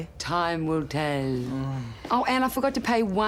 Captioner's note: dramatically